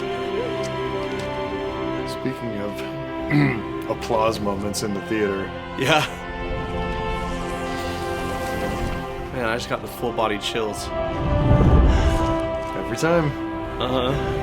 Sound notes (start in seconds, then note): 3.2 clears throat